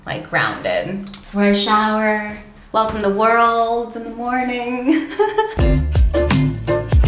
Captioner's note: laughs; playful jazz music